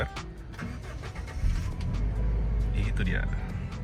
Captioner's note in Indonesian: suara mesin menyala